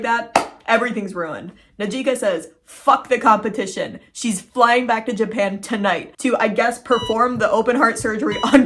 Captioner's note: heart monitor sounds